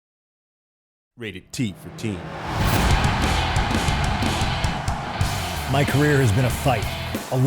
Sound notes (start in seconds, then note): 1.3 crowd cheering; 2.8 upbeat rock music